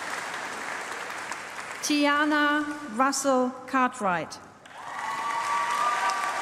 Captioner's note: applause